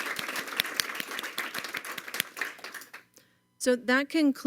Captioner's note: applause